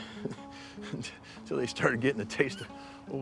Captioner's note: chuckles